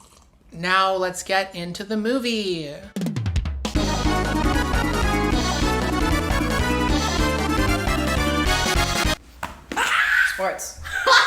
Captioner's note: slurping noise